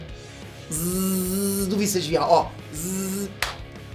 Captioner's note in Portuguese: zzzzzzz